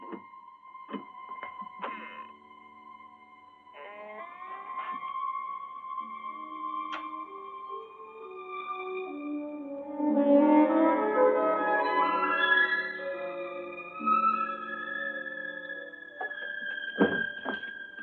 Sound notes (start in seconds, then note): 3.7 door creaking